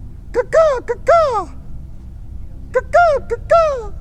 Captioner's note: makes animal call; makes animal call